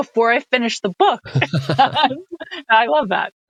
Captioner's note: laughing